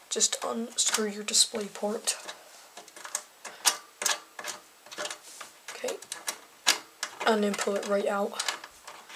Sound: unscrewing noises

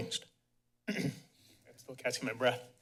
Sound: clears throat

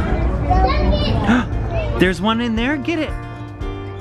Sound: gasps

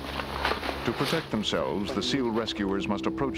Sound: voiceover

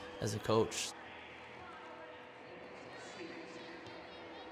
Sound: cheering

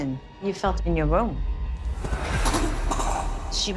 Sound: coughing

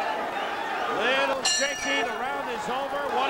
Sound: bell rings twice

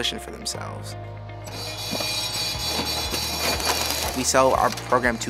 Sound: machinery rattling

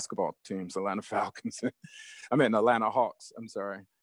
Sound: laughs

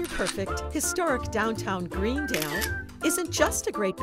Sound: camera shutter clicking

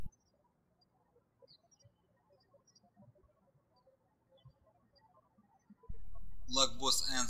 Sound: birds chirping

